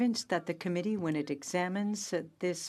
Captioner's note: speaking in French